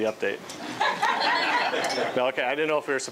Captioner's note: laughing